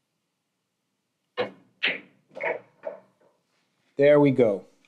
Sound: balls clanging

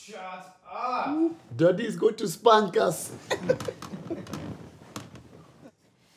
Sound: giggles

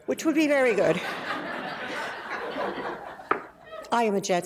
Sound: audience laughs

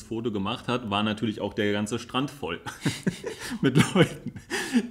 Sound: laughs

